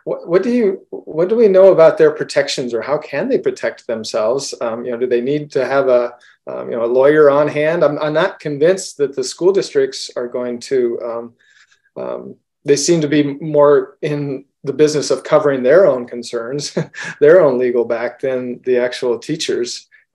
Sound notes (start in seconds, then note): 16.7 laughs